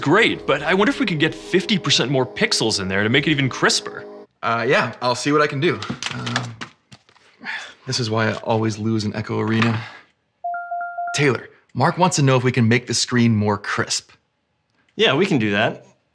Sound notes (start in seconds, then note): 10.2 rapid pings